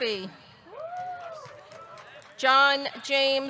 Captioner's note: audience cheering; audience clapping